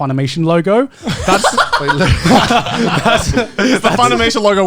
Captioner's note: men laugh